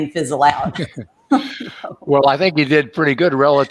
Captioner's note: laughs